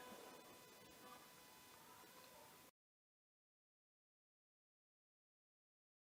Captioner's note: indistinct chatter